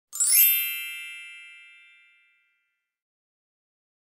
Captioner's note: bells chiming